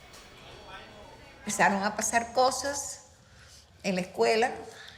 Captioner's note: speaking in Spanish